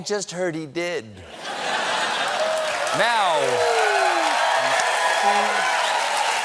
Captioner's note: laughter; cheers and applause